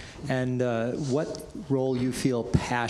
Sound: none

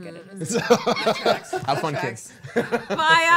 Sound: laughing

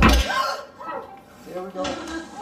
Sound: thud; whimpering

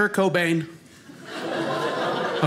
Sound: audience laughing

